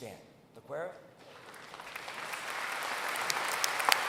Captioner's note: applause